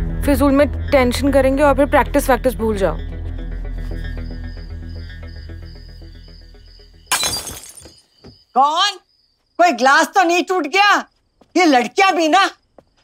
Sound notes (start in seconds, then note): 7.1 Glass breaking